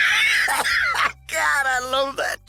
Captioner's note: laughing cough